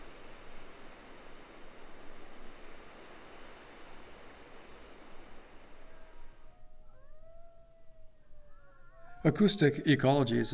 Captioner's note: coyotes yipping and howling